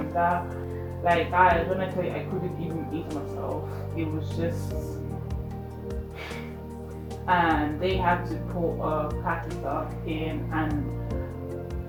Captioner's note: sighs